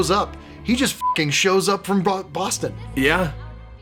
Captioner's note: beeping